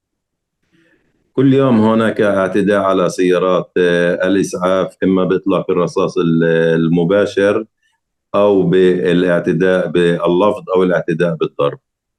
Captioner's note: speaking arabic